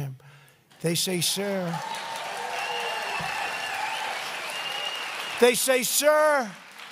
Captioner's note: applause